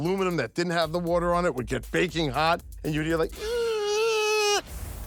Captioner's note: squeaking